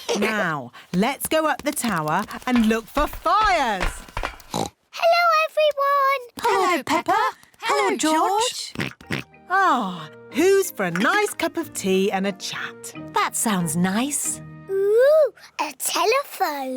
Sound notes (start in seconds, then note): 0.0 laughter; 4.5 oinks; 8.7 oinks